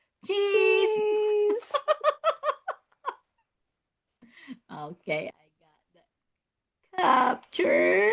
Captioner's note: laughs